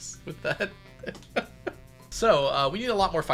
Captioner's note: laughs